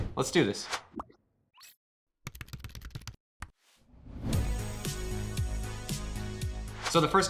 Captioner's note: upbeat music; rapid typing